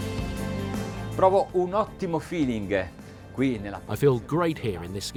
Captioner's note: speaking in a foreign language